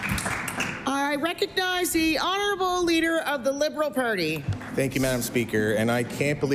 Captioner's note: applause